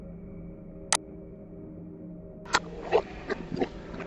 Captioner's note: mouse clicking; ominous music